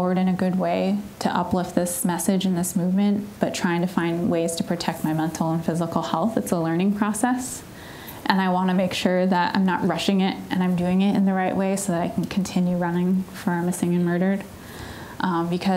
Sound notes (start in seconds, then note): none